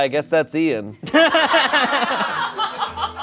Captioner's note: crowd laughs